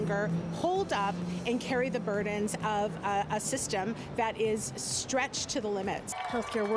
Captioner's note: cheering